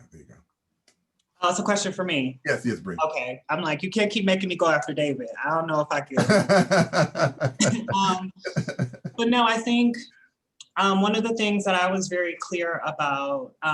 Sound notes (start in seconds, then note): 6.2 laughter